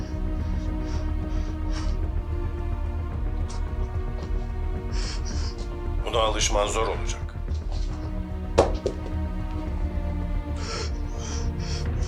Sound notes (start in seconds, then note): 0.0 heavy breathing; 8.4 phone drops